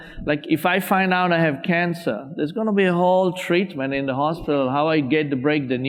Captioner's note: none